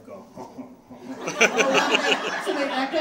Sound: audience laughing

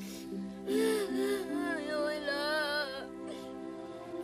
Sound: crying

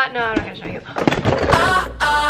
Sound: gasps; camera clatters

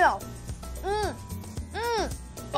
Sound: moaning

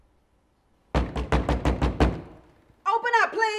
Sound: knocking on door

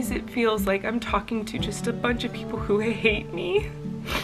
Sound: sniffling

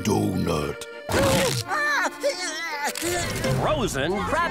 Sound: groaning

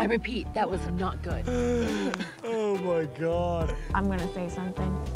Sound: laughter

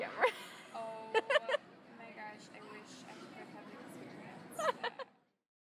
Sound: laughing

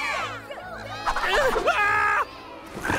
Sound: cheering; screams

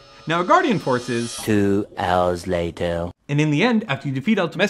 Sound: voiceover

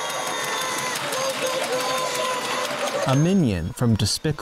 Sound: tinny screaming

